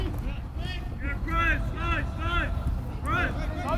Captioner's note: players shouting